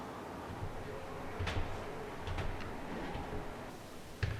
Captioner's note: footsteps tapping